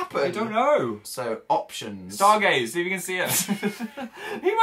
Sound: giggle

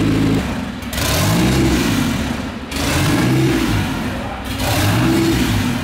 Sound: car engine revs intermittently

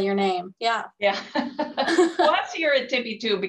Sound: both laugh

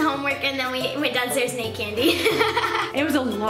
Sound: laughing

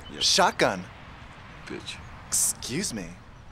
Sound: mutters

